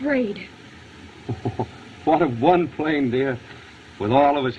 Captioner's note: chuckling